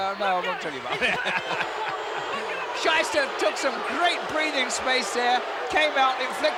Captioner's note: laugh